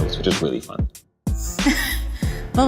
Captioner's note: laughing